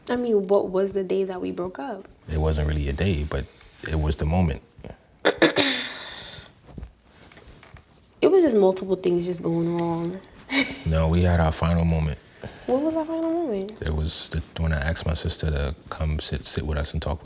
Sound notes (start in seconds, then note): 5.2 clears throat; 10.4 laughs